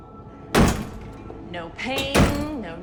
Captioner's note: door lock clanging